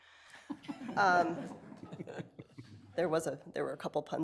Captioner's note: people laughing